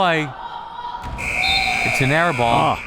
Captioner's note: whistle; buzzer